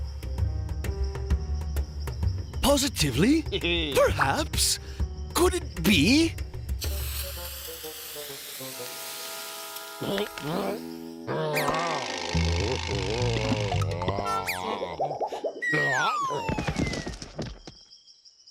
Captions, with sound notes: POSITIVELY, PERHAPS, COULD IT BE? (gagging) (groans)